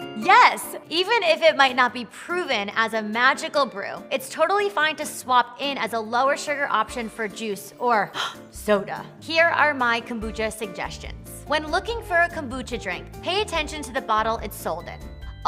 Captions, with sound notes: Yes! Even if it might not be proven as a magical brew, it's totally fine to swap in as a lower-sugar option for juice or (gasping) soda. Here are my kombucha suggestions. When looking for a kombucha drink, pay attention to the bottle it's sold in.